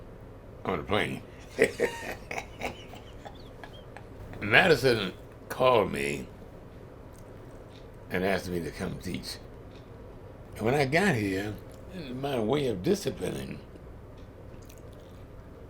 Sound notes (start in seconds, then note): 1.2 laughs